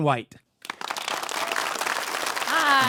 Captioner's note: audience applauding